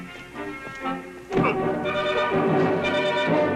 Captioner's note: grunts